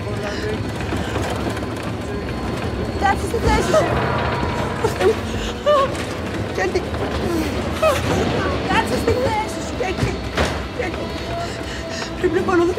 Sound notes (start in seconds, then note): 0.0 airplane rumbling; 0.0 dramatic music continues; 0.0 Vanina breathing heavy; 2.9 flight attendant speaking foreign language; 5.2 Vanina gasps; 6.2 Vanina speaking foreign language; 9.6 cart clunking; 9.6 thunder crackling; 12.1 Vanina and Kaiti speaking foreign language